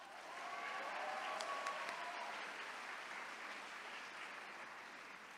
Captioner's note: attendees cheering